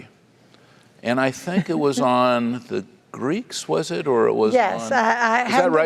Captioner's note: laugh